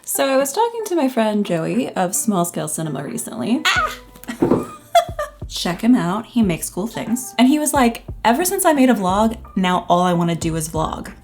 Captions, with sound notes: So. I was talking to my friend Joey of Small Scale Cinema recently. Ah! (laughs) Check him out. He makes cool things. And he was like “Ever since I made a vlog, now all I wanna do is vlog.”